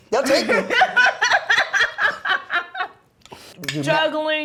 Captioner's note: laughing